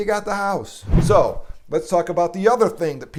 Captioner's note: whooshing sound